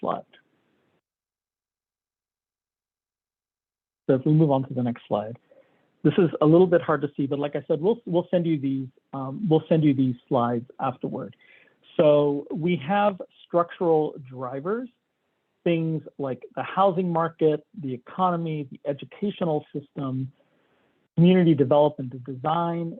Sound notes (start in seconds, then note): 6.1 chuckles